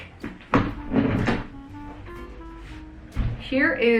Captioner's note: chair thuds